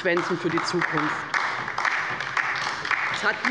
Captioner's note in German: Beifall bei der LINKEN